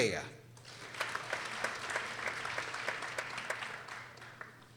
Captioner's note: people applauding